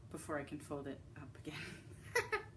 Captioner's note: laughs